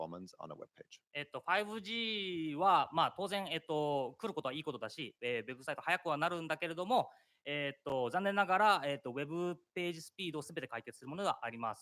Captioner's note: speaking japanese